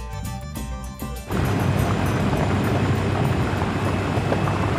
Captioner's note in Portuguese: som do motor